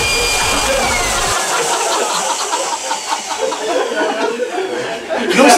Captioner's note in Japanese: 笑い